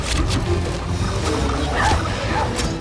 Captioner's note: speaks tribal language